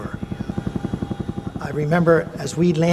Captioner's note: helicopter blades whirring